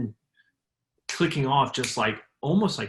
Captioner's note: snaps fingers